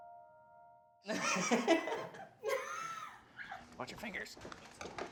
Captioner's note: family laughing